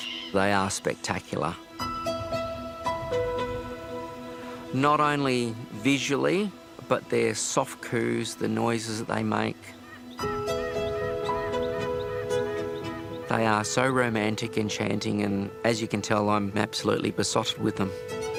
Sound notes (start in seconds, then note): 9.4 bird calls gently